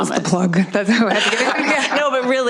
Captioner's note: laughter